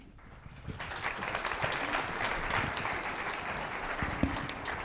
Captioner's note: audience clapping